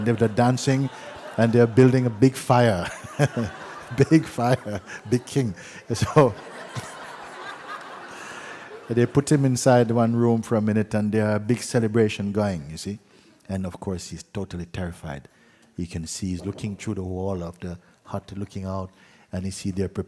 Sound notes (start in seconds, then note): 7.2 laughter